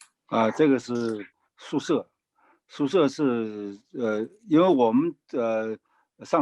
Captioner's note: speaking in foreign language